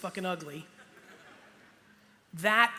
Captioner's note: light laughter